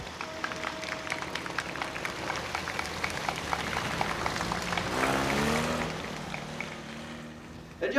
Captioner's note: applause